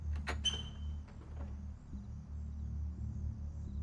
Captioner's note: door creaks